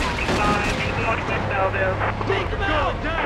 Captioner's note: siren wailing